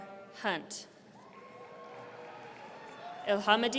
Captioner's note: audience cheering